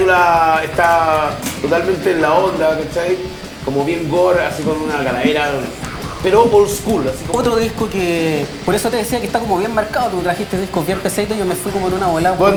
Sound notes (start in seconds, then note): none